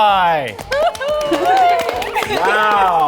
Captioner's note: members cheering & applauding